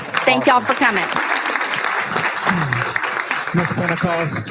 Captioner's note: applauding